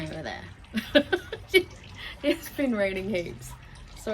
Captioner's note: laughs